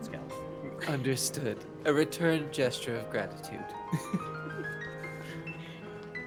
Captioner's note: laughs